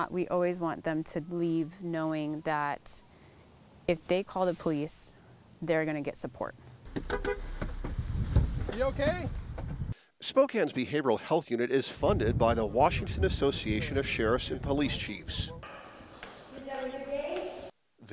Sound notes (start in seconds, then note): 6.9 horn honking